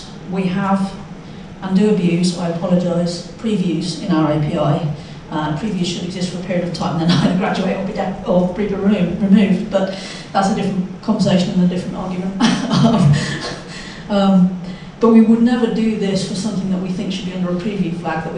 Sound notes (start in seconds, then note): 12.4 chuckles